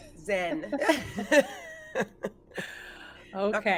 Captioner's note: laughing